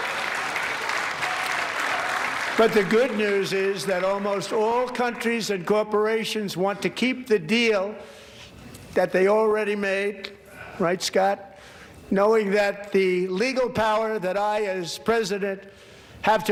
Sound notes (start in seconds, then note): 4.4 applause